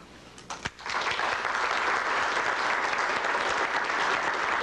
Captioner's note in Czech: potlesk